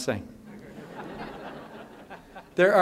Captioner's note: laughter